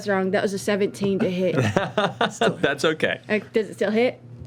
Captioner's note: laughs